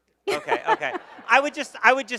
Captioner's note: laughing